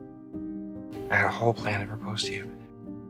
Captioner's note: voiceover